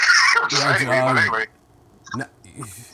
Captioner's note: laughs